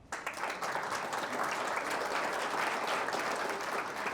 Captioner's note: audience applauds